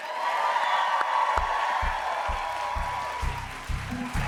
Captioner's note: cheers and applause